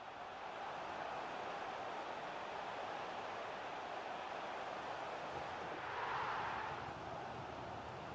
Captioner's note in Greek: χειροκρότημα